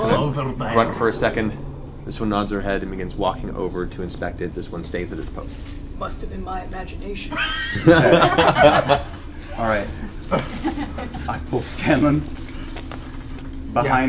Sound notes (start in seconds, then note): 6.5 Metal Gear voice; 7.3 all laugh